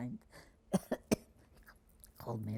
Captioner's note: coughing